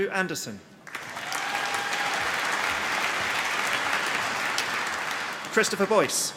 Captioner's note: applause